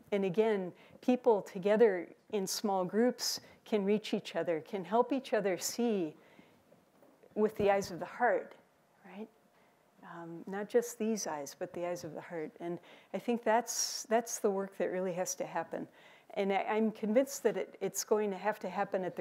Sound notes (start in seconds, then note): none